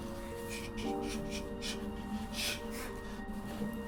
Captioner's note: gasping